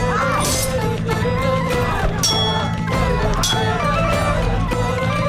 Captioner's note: both moaning; swords clanging; upbeat music